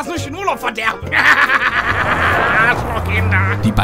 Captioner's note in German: creepy Lachen 4.0